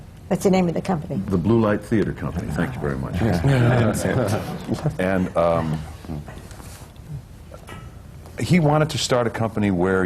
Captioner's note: laughter